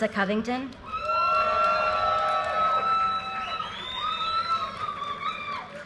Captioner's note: audience cheers and applause